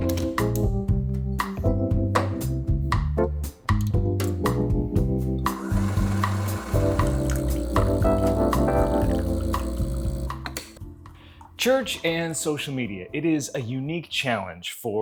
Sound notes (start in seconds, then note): 0.1 chill music; 5.4 coffee grinder whirring; 5.5 coffee sloshing; 7.0 coffee machine buzzing; 10.3 button clicks